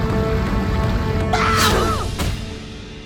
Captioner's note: grunting